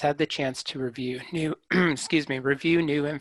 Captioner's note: clears throat